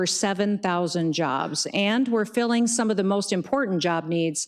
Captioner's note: none